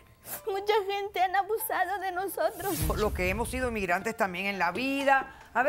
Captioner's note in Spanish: Solloza